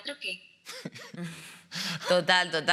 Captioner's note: laughing